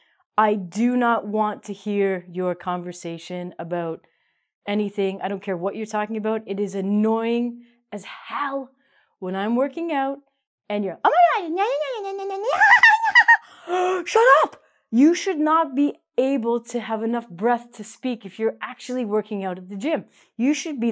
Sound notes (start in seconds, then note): 12.4 laughs